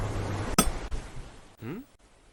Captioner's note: ocean sounds; pickaxe hits stone